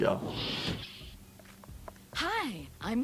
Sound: door whooshing

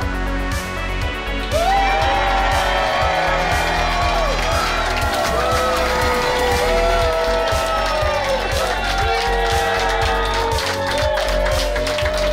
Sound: cheering & Clapping

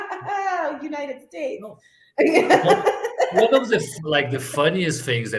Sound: laughs; laughs

